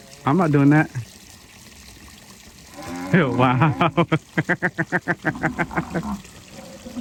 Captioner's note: laughs